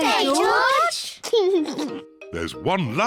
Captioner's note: laughs